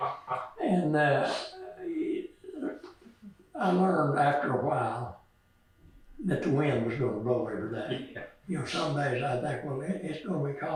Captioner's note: laughs